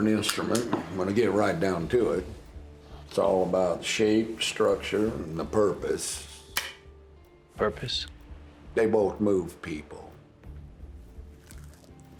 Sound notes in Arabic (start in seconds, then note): 6.5 تنقر البندقية فارغة; 10.3 موسيقى متوترة